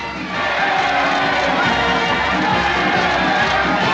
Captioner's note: cheering